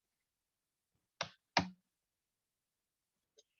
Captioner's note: keyboard sound